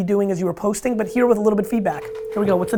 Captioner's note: phone ringing